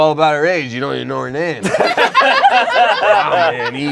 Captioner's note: laughing